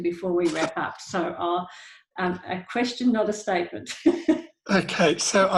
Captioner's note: laughs